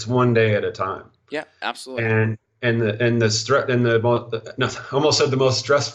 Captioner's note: stuttering